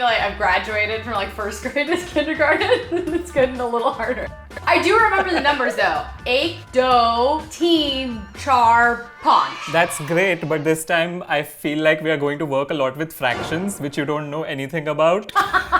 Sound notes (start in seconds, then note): 6.3 speaking in Hindi